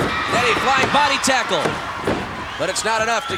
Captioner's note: audience cheering